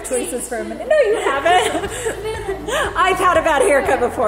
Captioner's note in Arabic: كلاهما يضحك